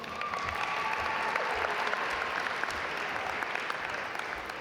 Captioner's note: audience applaud